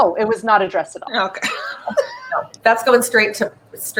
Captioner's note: laughs